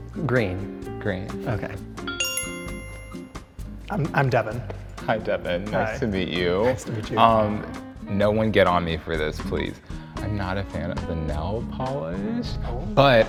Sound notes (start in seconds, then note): 2.0 bell chimes